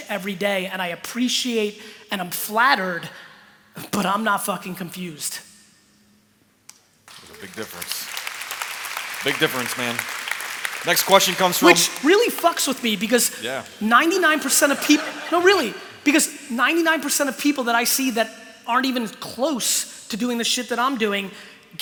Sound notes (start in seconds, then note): 7.0 applause; 14.4 laughter